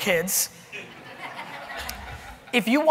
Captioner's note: audience laughing